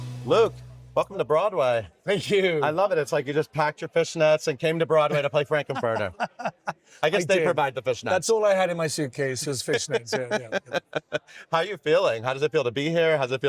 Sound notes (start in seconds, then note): 5.1 Luke laughing; 9.6 laughing